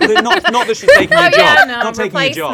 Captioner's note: people laughing